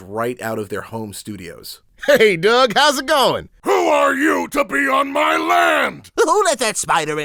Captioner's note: in Character Voices